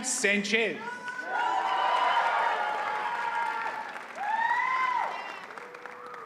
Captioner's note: audience cheers and applauds